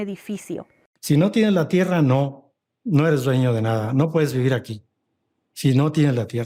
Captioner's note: speaking Spanish